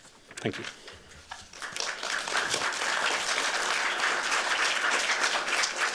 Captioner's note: applause